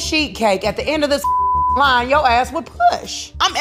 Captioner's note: beep